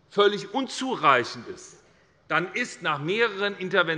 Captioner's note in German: none